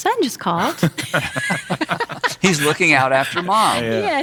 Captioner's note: laughing